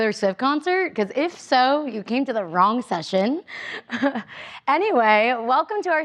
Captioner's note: chuckles